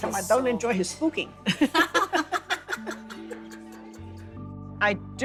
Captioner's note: both laughing